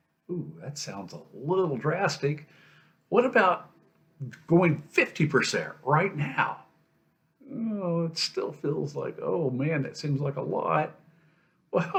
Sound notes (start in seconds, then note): 7.4 groans